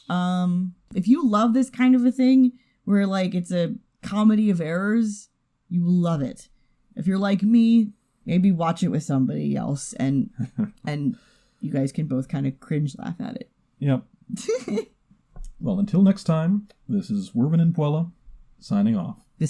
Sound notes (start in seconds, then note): 10.4 chuckles; 14.4 giggles